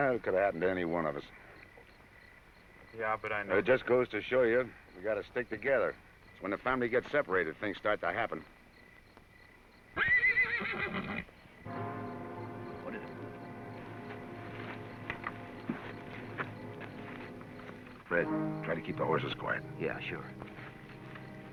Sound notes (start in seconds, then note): 10.0 horse neighs